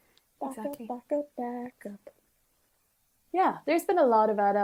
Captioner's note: none